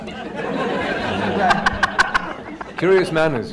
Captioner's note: laughter